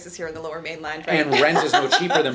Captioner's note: laughs